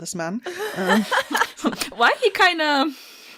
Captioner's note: laughter